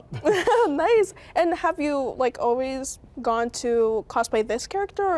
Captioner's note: laughs